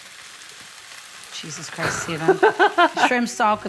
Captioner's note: laughs